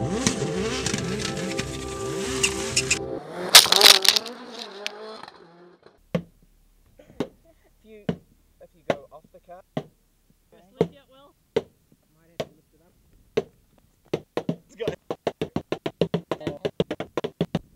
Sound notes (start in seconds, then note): 7.0 golf balls plunking off the car; 11.3 murmuring; 14.0 balls quickly plunking off